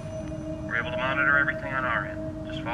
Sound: radio

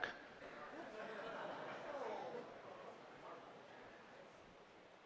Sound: laughter

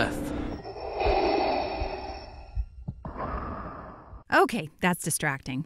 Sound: Darth Vader breathing

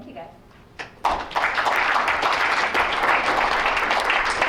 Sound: applause

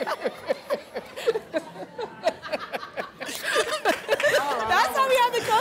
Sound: laughter

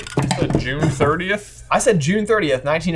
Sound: pad stands clanking

